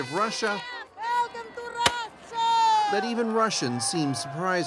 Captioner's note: speaking russian